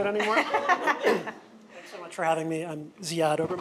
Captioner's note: audience laughs